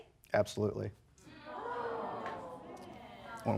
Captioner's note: audience gasps